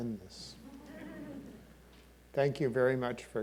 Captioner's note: audience laughing